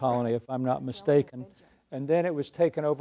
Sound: speaks faintly

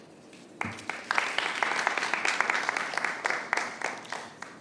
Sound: applause

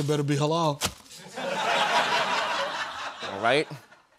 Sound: laughter

